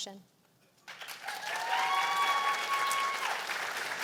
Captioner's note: cheers and applause